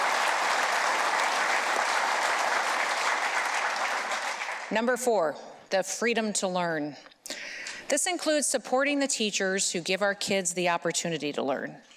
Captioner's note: applause